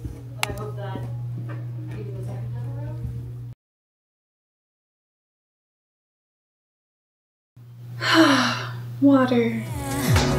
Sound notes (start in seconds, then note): 8.0 sigh